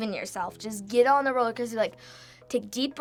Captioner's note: inhales